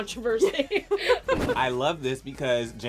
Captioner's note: laughing